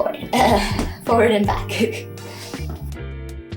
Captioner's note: laughing